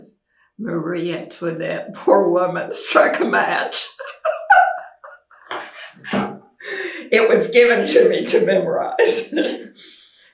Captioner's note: laughs